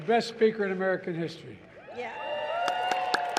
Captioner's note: applause